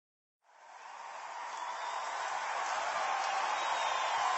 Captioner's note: cheering and applause